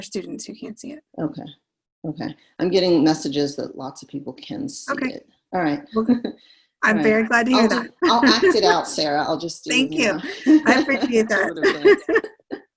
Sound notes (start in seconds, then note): 7.5 chuckles